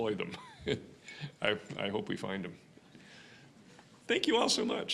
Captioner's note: chuckling